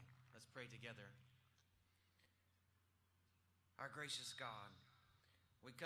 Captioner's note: applause